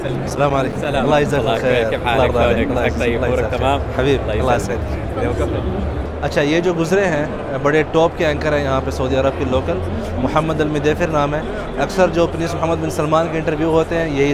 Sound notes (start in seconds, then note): 3.3 Arabic